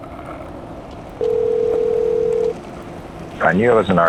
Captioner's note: phone ringing